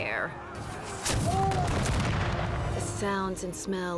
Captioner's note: cannon blasts, gunfire